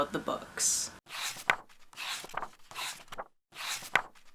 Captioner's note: pages turning